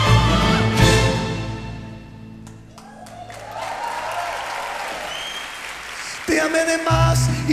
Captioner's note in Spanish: aplausos